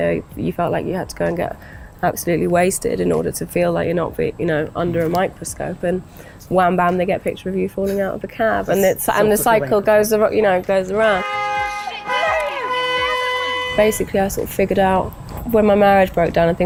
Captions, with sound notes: you felt like you had to go get absolutely wasted in order to feel like you're not under a microscope. Wham, bam, they get a picture of you falling out of a cab. And they cycle goes around. *car horn honks* Basically I figured out, when my marriage broke down